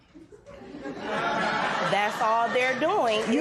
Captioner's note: laughter